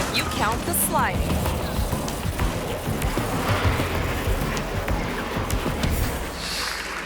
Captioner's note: car scratching; tense dramatic music